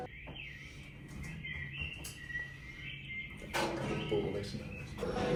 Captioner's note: bird noises